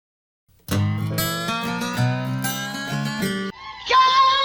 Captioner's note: heavily distorted